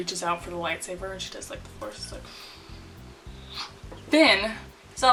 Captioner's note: wooshing